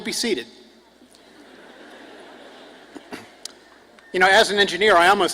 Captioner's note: crowd laughs